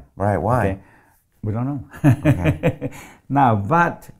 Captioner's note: laughs